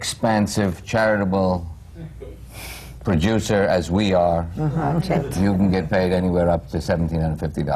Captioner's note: laughter